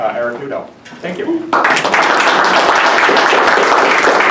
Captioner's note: applause